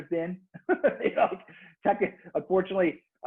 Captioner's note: laughs